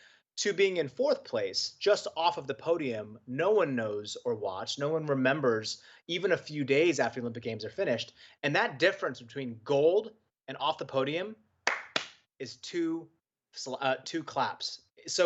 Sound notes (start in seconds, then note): 11.6 clapping